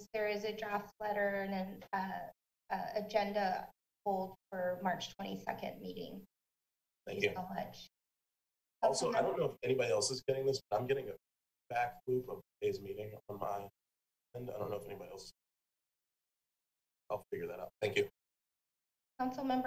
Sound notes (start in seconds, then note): 13.6 speaks faintly